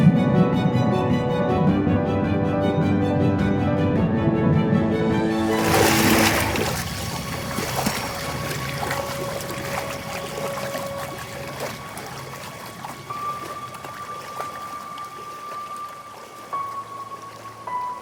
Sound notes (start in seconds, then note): 0.1 dramatic orchestral music continues; 6.4 water splashing; 13.3 dramatic orchestral music continues